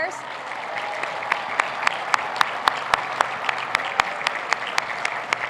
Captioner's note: cheers and applause